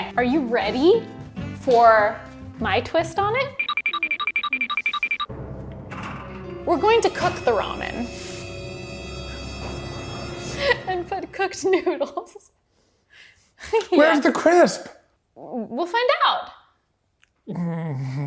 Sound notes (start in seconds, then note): 5.4 dramatic beat; 10.2 laughing